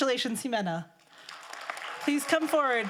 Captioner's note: crowd applauding